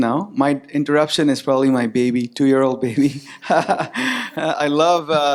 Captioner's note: laughs